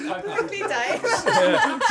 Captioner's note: laughter